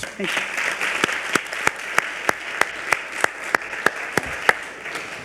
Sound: audience applauds

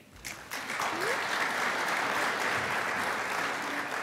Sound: crowd applauds

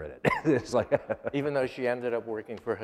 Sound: laughter

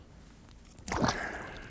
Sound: splash

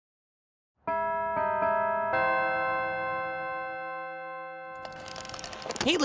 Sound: bells chime

